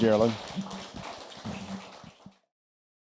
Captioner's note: applause